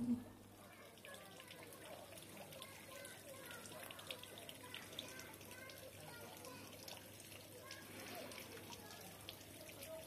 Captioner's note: children playing, water splashing from a fountain